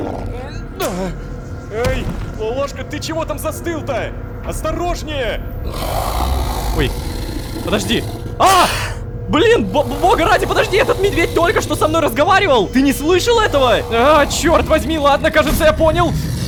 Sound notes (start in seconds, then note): 5.3 monster growl